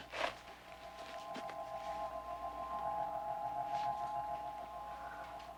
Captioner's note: crystal chiming